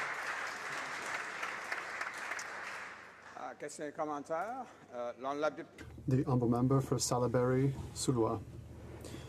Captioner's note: some applause